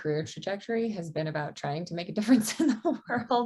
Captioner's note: chuckles